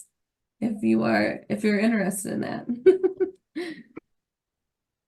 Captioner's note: laughs